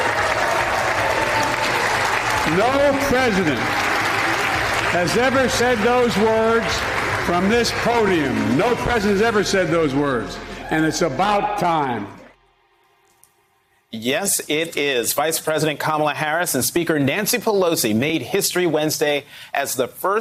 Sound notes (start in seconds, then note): 4.0 applause